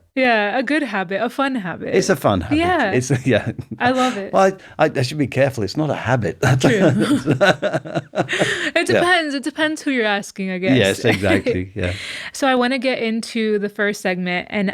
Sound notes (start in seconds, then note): 6.4 both laughing